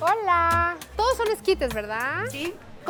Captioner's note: speaking Spanish